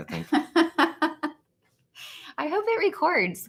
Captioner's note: laughs